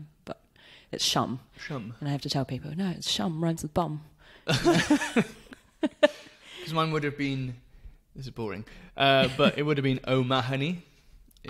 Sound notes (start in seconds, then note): 4.4 laughs